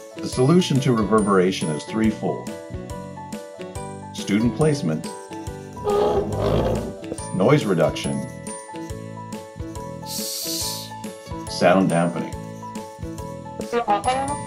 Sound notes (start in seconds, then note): 5.8 dragging noise; 9.9 shhh